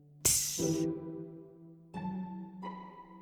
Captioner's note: HISSS of something burning in lava